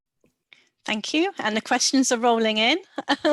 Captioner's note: laugh